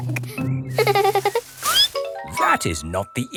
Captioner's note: peppa giggles; squeaks